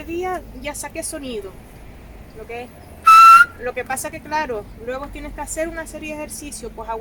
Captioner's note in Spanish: ejemplo silbando